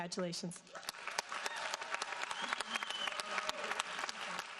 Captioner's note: audience applauding